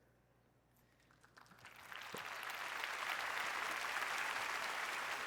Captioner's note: applause